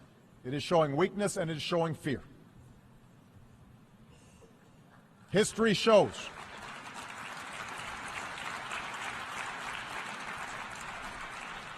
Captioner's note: applause